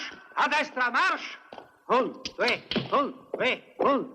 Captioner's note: Dusty whistling